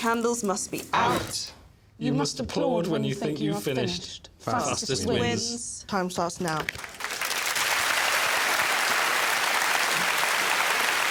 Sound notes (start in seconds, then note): 8.1 applause